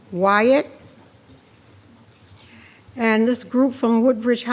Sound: speaking faintly

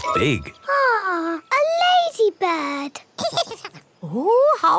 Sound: giggles

